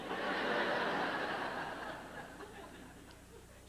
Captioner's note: laughter